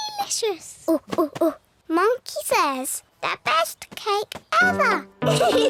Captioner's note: chatters